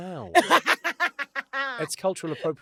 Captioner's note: London laughs